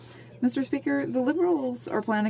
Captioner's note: speaking French